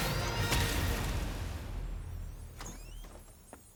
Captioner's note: explosion